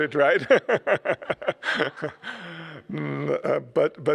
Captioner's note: laughs